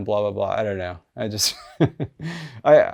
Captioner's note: chuckles